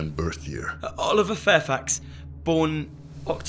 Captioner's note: stammers